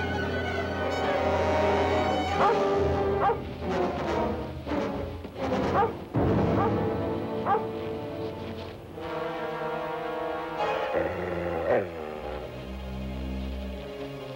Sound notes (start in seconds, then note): 2.3 Shep barking; 10.7 Shep growling